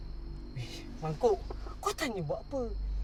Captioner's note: in Bahasa Melayu